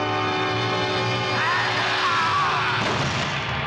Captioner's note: screaming